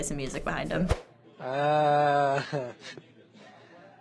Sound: flatly

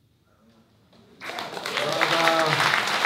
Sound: applause

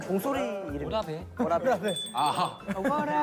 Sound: ding

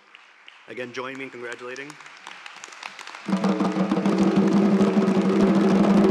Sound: applause and drumming

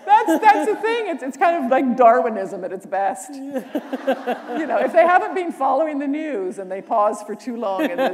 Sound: laughter

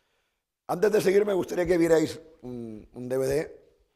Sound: speaking spanish

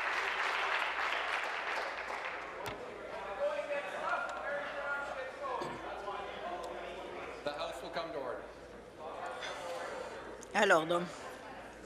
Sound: some applause

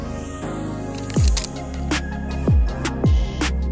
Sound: shutter clicks; upbeat music

